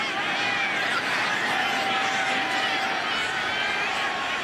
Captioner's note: crowd cheering